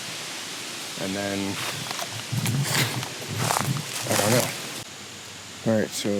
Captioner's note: footsteps rustling